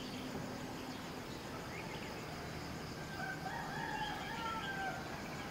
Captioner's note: rooster crows